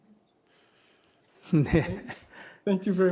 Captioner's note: laughter